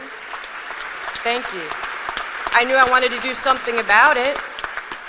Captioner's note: applause